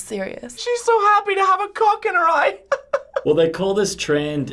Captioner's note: laughing